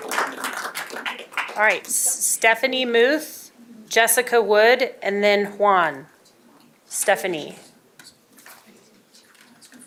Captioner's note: applause